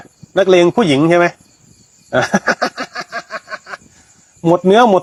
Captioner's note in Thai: เสียงหัวเราะ